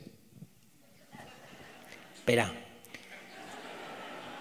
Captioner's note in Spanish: audience laughs